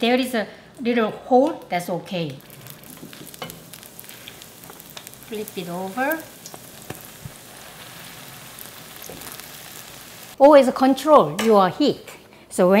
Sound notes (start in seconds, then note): 3.1 sizzling; 7.0 sizzling